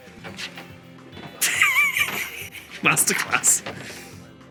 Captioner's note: sparking match noise; giggles